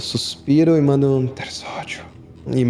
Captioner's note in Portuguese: sussurrando